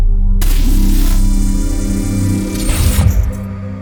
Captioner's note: laser Sound Effects, Music